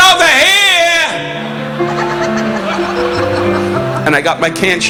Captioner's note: audience laughing